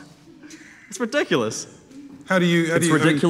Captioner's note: chuckling